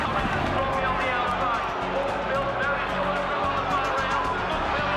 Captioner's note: horses galloping; announcer excitedly describing horse race; audience cheering